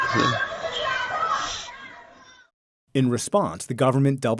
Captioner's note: speaking foreign language